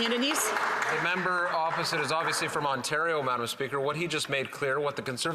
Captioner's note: applause